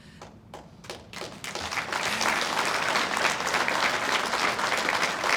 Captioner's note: audience applauds